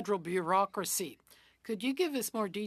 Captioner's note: speaking French